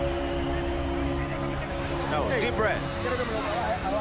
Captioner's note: trainer speaking Spanish